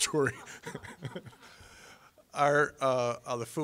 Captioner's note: laughing